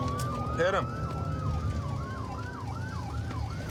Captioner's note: sirens wailing